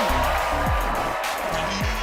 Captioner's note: cheers and applause